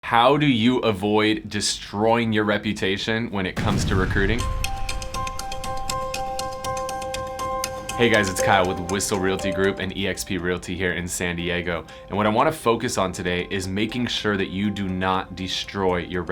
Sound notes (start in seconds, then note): 3.6 explosion booms; 4.3 upbeat music